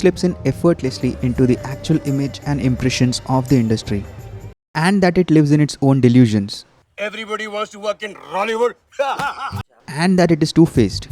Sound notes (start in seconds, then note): 7.0 guffaws ludicrously